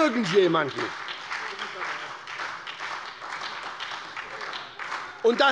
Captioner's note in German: Beifall bei der SPD